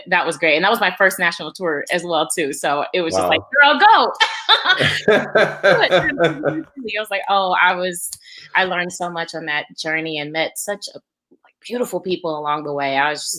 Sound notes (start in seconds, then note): 4.2 laughs